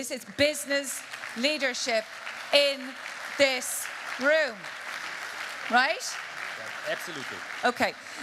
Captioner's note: applause